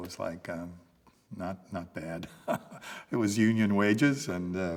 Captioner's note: laughs